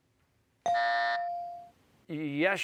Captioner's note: bell dings; buzzer